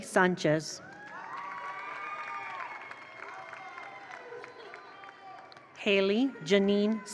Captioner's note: attendees cheer; attendees applaud